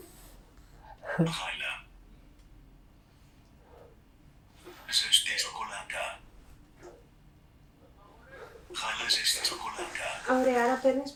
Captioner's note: achmet – artificial male voice